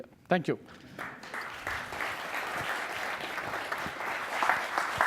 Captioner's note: audience applauds